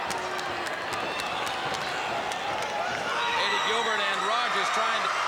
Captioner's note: crowd chatter